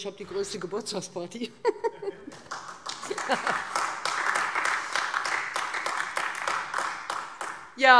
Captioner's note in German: Heiterkeit und Beifall